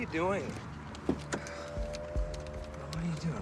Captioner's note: sighs